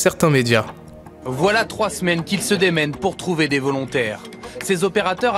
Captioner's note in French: Voix Off